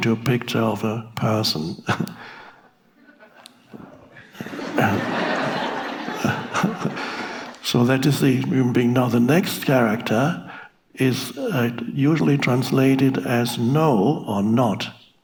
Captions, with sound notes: to a picture of a person. (audience laughing) So that is the human being. Now, the next character is usually translated as no or not.